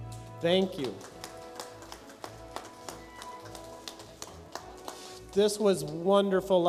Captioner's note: light applause